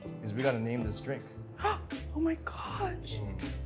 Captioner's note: gasping